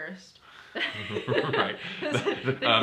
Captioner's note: laughter